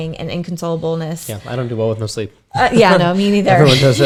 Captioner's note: chuckles